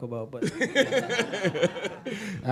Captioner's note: laughter